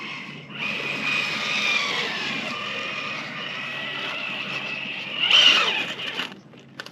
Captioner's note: vroom! Vroom! Vroom! Vroom!